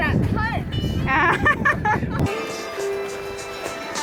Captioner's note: laughs